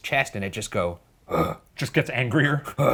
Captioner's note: growling; growls